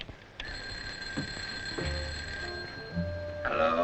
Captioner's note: phone ringing